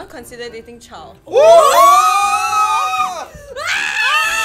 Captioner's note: all screaming